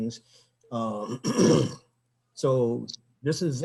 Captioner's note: clears throat